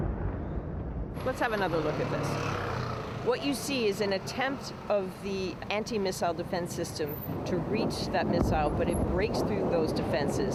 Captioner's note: explosion